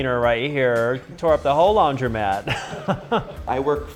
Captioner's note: laughs